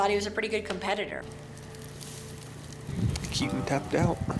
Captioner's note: fire crackling